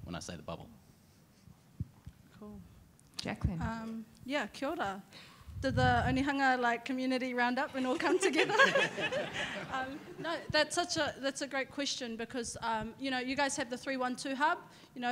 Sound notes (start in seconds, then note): 4.6 speaks in a foreign language; 7.8 all laughing